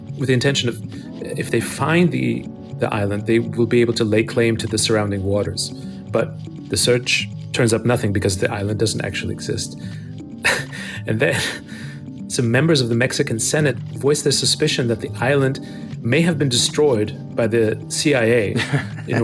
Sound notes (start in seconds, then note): 10.4 chuckles